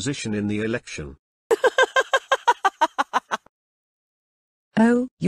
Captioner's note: laughter